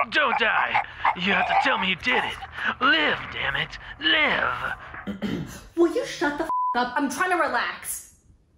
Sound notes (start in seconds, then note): 0.0 gasping; 5.0 clears throat